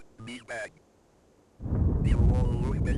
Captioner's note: rain; thunderclap